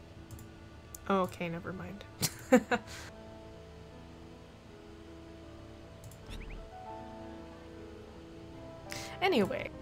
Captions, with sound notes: Oh, okay, nevermind. [laughs] Anyway-